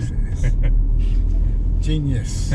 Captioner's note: laughing